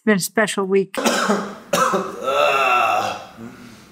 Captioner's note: coughs